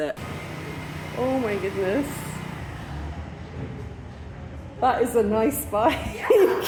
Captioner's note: laughing